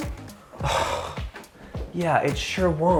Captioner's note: exhaling deeply